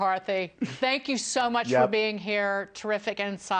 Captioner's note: laughter